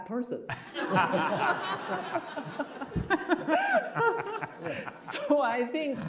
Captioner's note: laughing